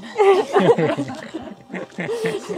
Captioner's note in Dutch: gelach